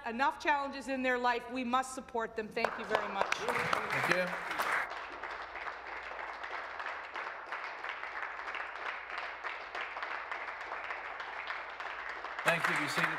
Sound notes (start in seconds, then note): 6.6 some Applause